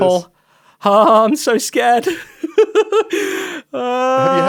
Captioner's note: laughs